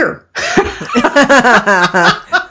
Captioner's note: laughing